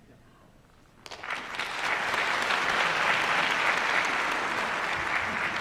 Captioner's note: applause